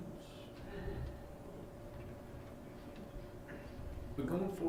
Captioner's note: chuckling